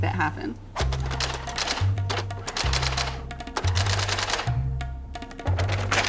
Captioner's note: typewriter keys clacking